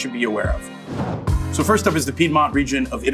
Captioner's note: dramatic whooshing